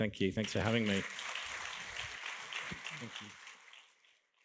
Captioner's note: audience applauding